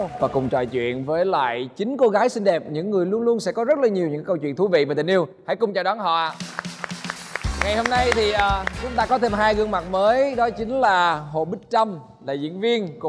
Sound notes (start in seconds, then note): 6.3 applause